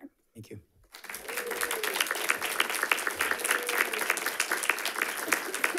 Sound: audience applauding

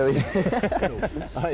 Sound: chuckle

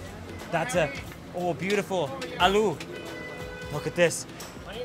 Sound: speaking foreign language

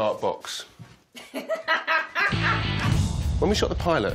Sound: laughs

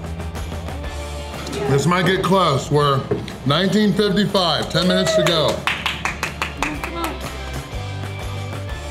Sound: clapping

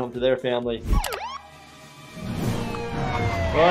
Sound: background police vehicle wailing

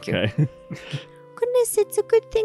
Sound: chuckles

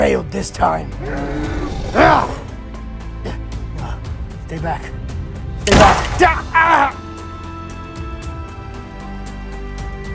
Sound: struggling sounds

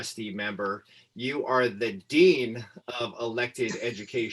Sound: laughter

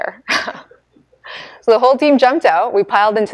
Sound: laughing

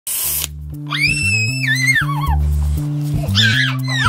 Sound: can fizzing; screams and laughs; children screaming

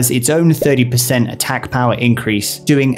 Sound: bubble pops

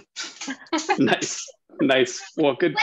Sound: laughing

